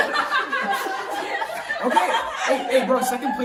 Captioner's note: laughter